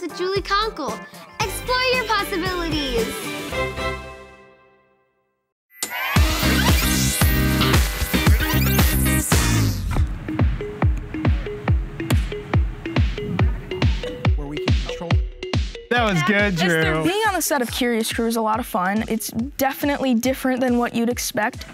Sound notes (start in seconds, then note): 6.0 groovy Music; 12.1 claps